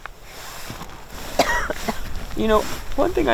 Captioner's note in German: hustet